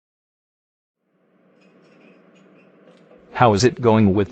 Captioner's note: dishes clinking, background chatter